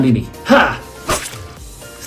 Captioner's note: cut effect